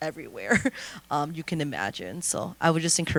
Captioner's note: laughter